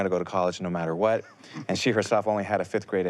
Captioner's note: chuckles